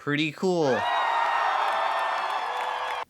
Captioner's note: crowd cheering